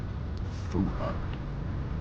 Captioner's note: scoffs